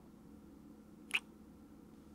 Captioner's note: kiss